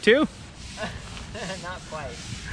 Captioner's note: laughs